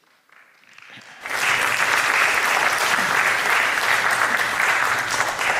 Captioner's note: applause